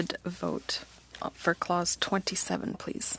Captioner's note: speaking french